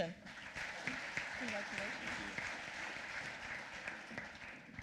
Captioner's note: applause